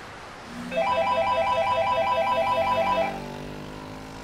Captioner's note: Phone Rings